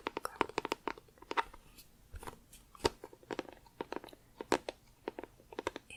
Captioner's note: tapping on plastic